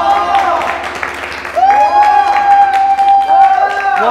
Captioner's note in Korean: 안양 춤꾼에게 쏟아지는 박수갈채